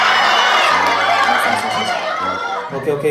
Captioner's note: furious hahaha